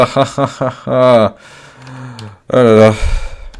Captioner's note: sigh